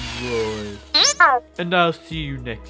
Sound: short beep

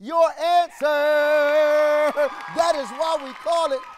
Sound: audience applauds

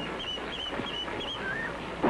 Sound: chick sounds

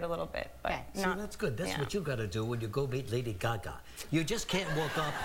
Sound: laughter

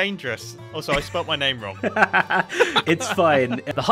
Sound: laughing

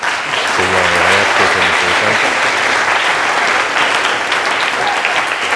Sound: applause

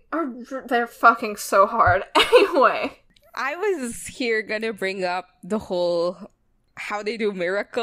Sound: laughs

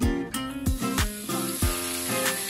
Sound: sizzling sounds

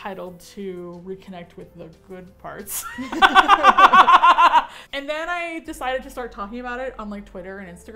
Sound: both laugh

